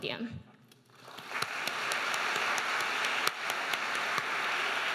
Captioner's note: audience applauding